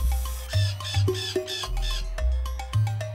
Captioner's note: cawing